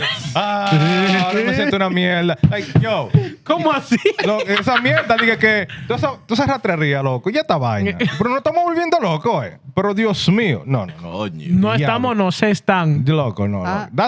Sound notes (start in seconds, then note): 1.0 non-english Speech; 4.2 non-english Speech